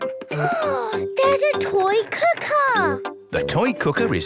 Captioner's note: gasps